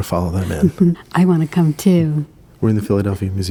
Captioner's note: laughs